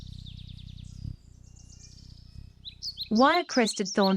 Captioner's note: birds chirping